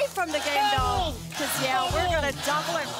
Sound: double chant

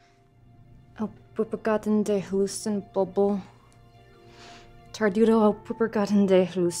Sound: woman speaking in a foreign language

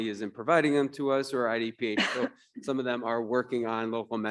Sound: panelist coughs

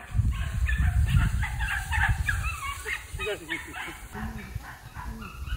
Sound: dog's barking

